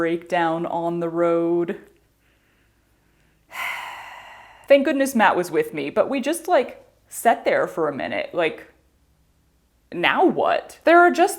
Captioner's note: sigh